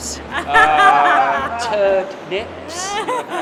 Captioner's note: forced laughter